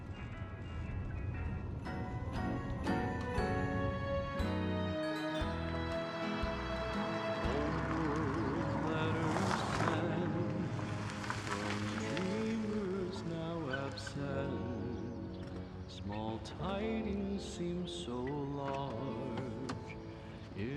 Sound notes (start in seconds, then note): 2.3 gentle bright music; 9.7 tires crunching